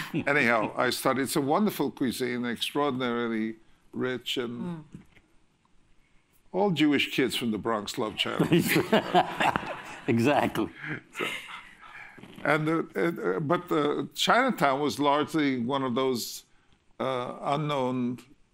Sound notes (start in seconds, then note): 8.3 laughter